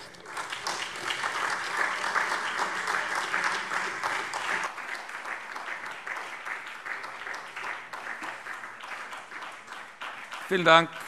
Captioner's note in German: Beifall SPD und Freie Demokraten